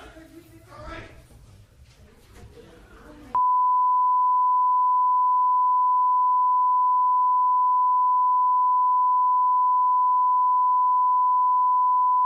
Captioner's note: gallery murmuring